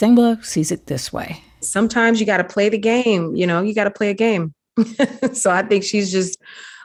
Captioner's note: laughter